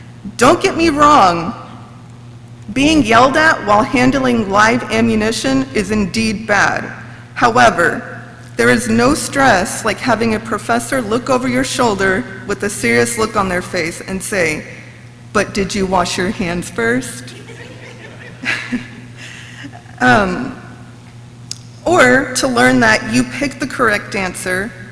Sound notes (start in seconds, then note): 17.2 audience laughs; 18.8 laughs